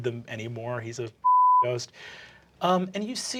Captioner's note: beeping